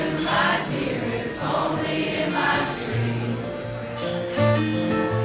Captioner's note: crowd